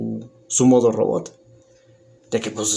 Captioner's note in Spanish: Silencio